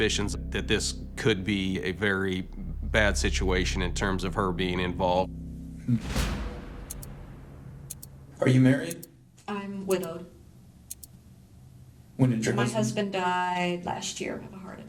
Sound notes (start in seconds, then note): 6.1 clock ticking